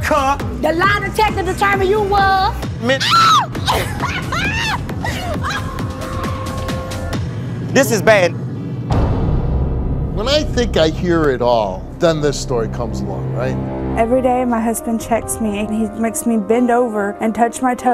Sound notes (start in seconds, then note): 2.8 woman screaming; 3.5 woman laughing; 6.3 dramatic music